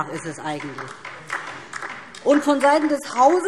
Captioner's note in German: Beifall DIE LINKE